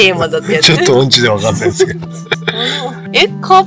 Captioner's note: laughs